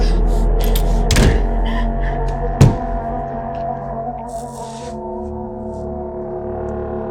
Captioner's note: Ally panting; door slamming; fist pounding